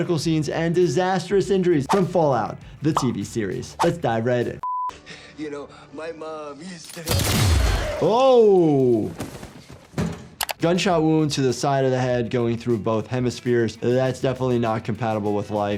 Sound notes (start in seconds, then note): 7.1 gun fires